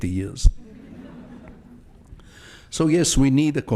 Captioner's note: audience laughs